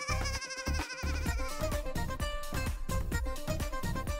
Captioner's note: goat bleating